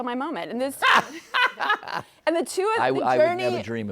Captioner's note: laughing